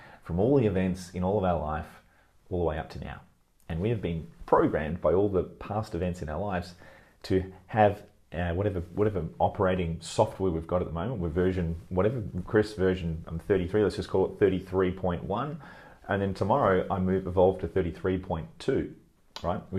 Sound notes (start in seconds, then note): none